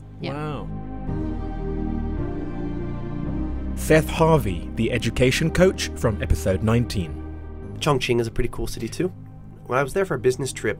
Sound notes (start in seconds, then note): 2.4 voiceover